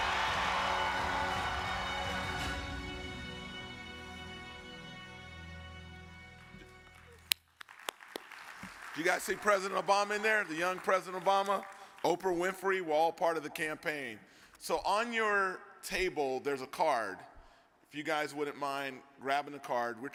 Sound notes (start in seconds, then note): 0.0 triumphant music; 6.3 audience claps